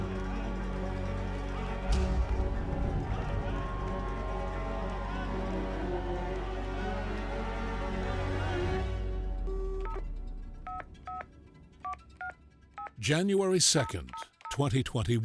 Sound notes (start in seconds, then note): 0.0 crowd cheering; 10.1 phone dialing